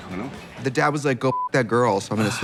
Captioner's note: beep